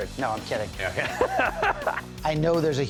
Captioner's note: laughs